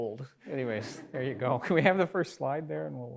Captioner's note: laughs